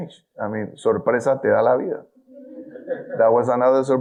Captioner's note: speaking in foreign language